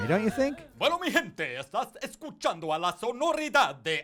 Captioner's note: espanol